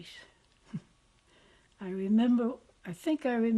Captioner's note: laughs